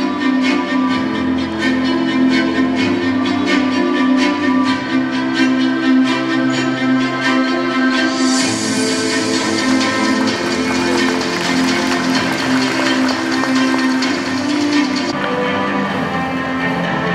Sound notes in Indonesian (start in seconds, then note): 9.2 tepuk tangan